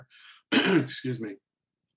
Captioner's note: coughs